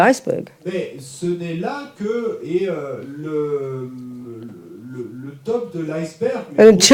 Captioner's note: audience member speaks in French